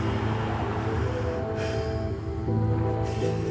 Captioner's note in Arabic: أنين أوسكار